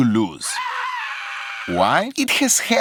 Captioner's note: screaming